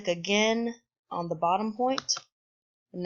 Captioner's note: click